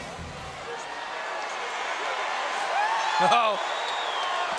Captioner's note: crowd cheering